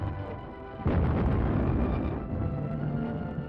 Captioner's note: boom!